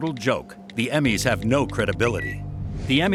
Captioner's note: Twitter chime